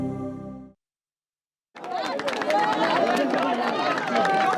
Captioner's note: background chatter